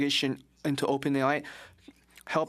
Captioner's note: speaking French